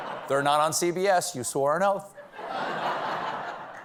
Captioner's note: laughter